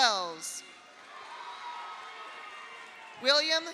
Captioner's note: audience cheers; audience applauds